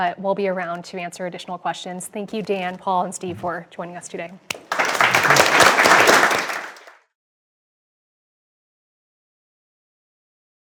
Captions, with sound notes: but we'll be around to answer additional questions. Thank you, Dan, Paul and Steve, for joining us today. [APPLAUSE]